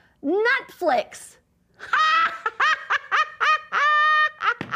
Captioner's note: laughs